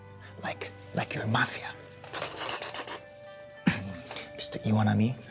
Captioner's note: imitates guns firing